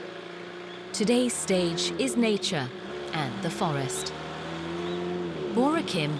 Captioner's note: voiceover